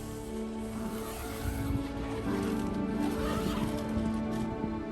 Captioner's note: quiet music; sound of closing the zipper